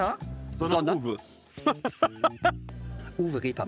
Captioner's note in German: Lachen